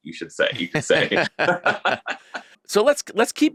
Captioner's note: laughing